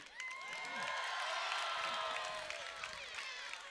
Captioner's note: cheering